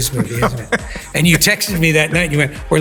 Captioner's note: Tom laughing